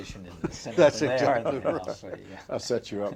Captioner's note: laughter